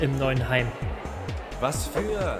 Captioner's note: angry crowd